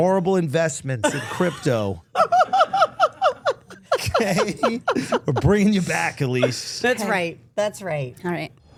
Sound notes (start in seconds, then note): 2.2 Steph laughing